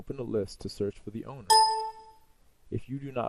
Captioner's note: computer dings